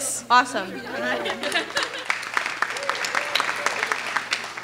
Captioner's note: clapping